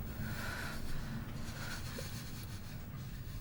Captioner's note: Ira pants